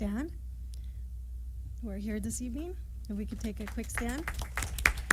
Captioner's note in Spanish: aplausos